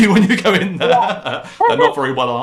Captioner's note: laugher; laughter